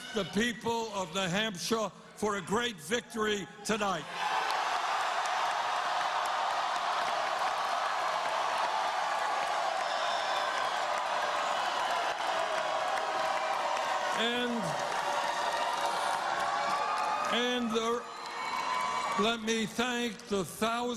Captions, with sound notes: YOU, NEW HAMPSHIRE! LET ME TAKE THIS OPPORTUNITY TO THANK THE PEOPLE OF NEW HAMPSHIRE FOR A GREAT VICTORY TONIGHT. [ CHEERS AND APPLAUSE ]